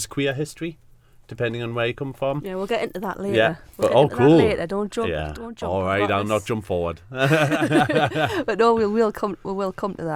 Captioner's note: laugh